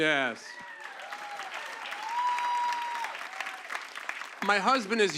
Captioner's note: cheers and applause